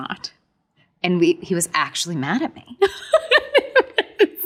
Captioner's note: laughs